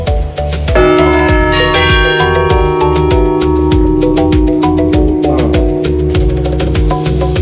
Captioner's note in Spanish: campana